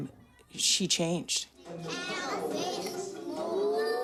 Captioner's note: students chatter excitedly